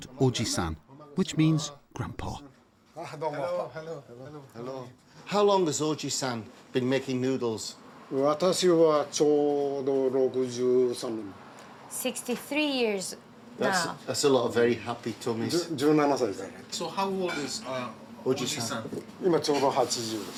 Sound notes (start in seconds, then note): 4.0 speaks Japanese; 9.2 speaks Japanese